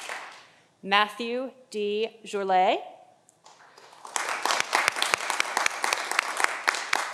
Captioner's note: audience applauding